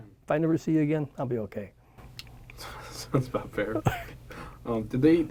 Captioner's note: laughs